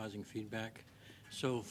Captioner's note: speaking French